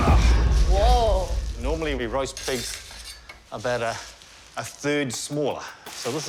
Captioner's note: grunts